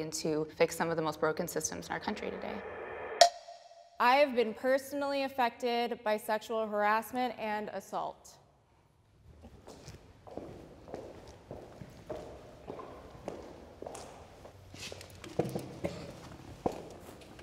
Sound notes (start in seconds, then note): 2.9 bell dings; 9.3 footsteps